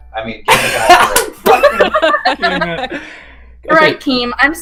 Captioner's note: laughs